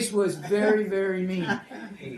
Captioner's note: laughter